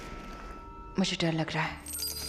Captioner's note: clanking